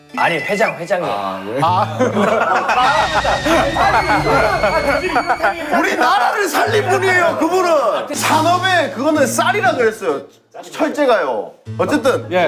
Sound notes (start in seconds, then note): 2.7 rising anger